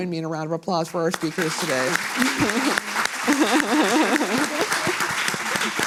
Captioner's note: audience applauding